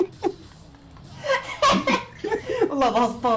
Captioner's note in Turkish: gülüşmeler